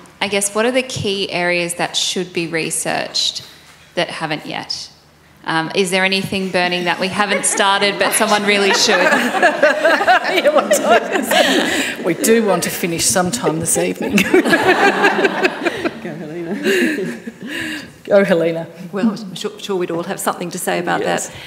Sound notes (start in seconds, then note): 9.2 panellists laughing; 13.9 panellists laughing; 14.1 laughs